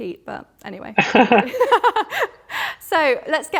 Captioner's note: all laugh